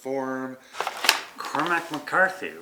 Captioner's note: paper rustling